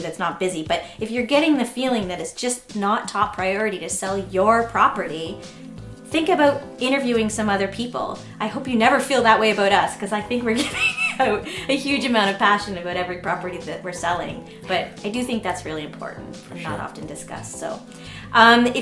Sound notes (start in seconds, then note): 10.5 laughing